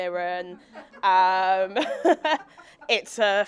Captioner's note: audience laughing